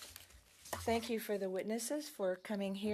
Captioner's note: speaking French